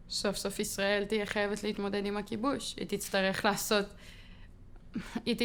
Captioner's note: speaking foreign language